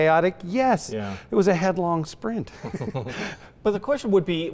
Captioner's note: both laugh